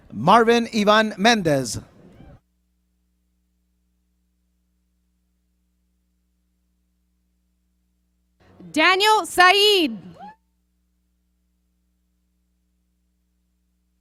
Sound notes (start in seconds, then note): none